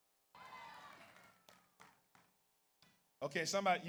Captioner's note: audience cheers